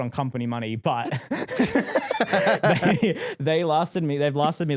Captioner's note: laughing